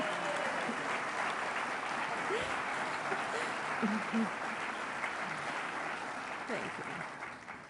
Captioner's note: applause